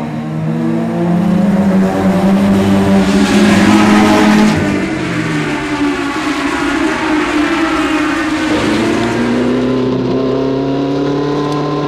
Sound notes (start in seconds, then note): none